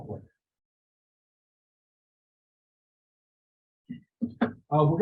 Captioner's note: pause